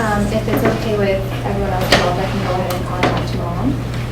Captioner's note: stapler muffles speaker